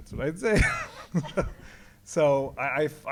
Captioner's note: laughs